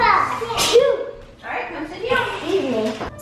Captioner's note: sneezes